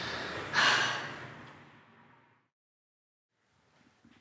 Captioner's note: daughter sighing